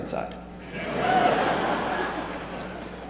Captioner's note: laughter